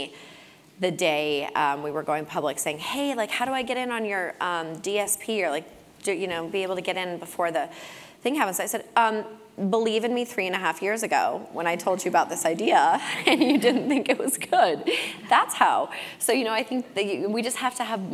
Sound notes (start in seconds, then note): 13.0 laugh